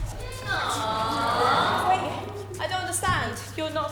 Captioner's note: audience: “Aww!”